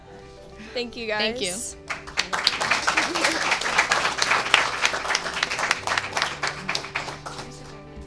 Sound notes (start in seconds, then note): 2.0 audience applauding